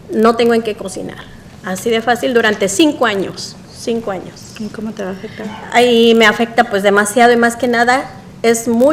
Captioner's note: speaking spanish